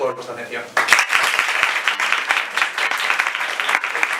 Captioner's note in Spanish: aplauso